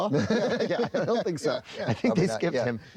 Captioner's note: both laugh